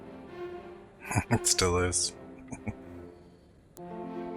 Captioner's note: chuckling